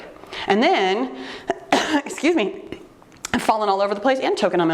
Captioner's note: coughing